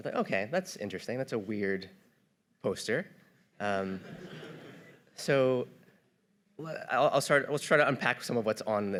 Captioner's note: audience laughter